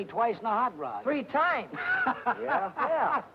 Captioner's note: happy laughing